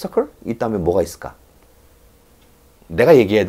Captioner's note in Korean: 침묵